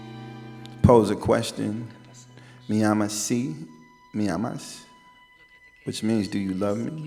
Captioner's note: speaking in Spanish